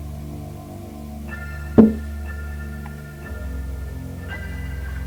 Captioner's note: tapping